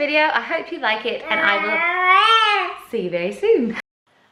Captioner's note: wails